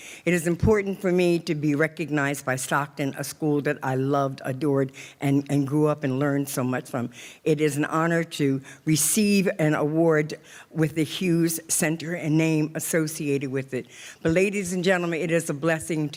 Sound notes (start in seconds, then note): none